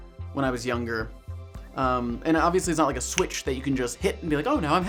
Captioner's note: snaps